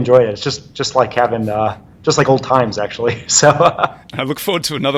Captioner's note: laughs